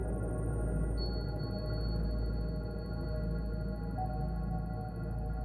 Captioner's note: digital beeping; soft haunting music